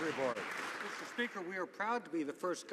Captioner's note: some Applause